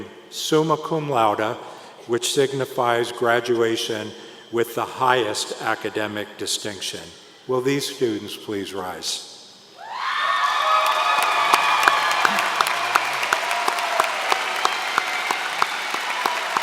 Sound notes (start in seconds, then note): 10.4 applause